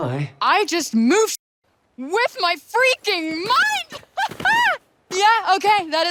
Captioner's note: chuckles